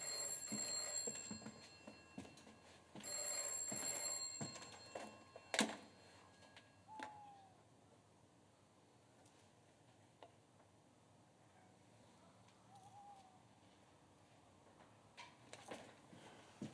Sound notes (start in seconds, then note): 5.5 ringing stops, owl hoots